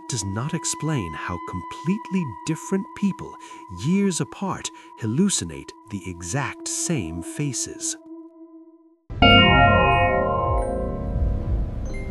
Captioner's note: bell rings